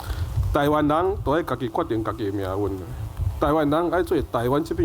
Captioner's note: Taiwanese